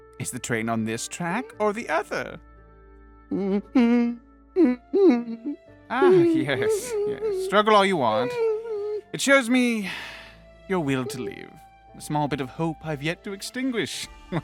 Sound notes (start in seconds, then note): 3.1 scared Whimpers; 9.8 sigh